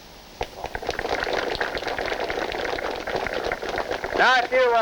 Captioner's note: audience applauding